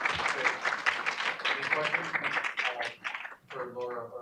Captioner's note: audience applauding